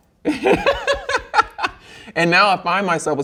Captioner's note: laughs